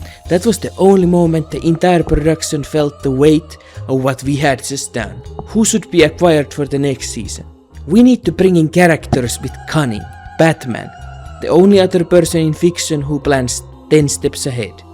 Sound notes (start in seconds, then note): none